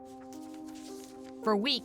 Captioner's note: paper rustling